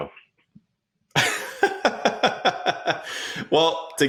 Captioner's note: laughing